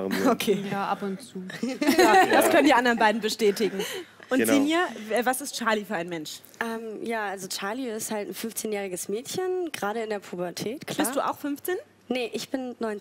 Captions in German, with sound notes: Ja, ab und zu. (Gelächter) Das können die anderen beiden bestätigen. Genau. Sinje, wer ist Charlie? Charlie ist 15, gerade in der Pubertät. Bist du auch 15? Nein, 19.